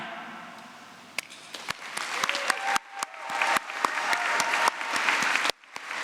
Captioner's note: applause